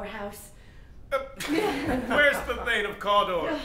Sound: laughter

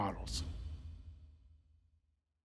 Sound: swoosh

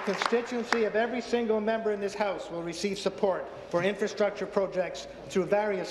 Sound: applause

